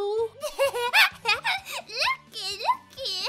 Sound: laughs

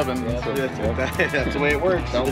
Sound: chuckling

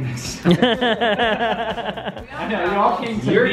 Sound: laughing

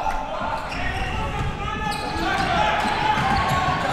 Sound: crowd cheering

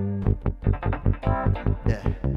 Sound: both laugh

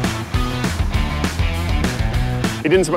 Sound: engine decelerating

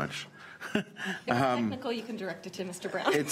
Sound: chuckles

